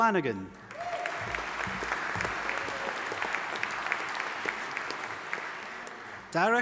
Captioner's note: audience applauding and cheering